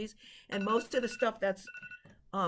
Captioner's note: alarm ringing